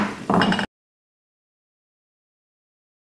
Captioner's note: gavel bangs